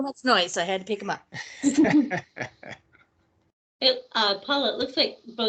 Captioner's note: laughing